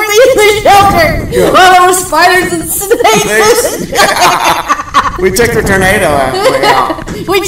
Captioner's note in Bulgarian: смях